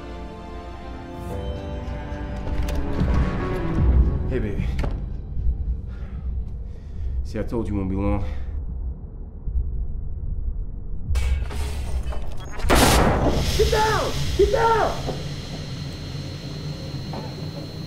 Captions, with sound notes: - Hey baby. See I told you I wouldn't be long. (explosion) Get down, get down!